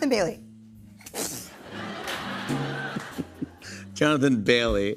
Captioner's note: laughter